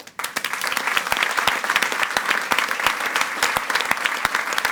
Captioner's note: audience applauds